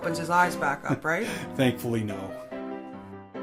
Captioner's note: chuckling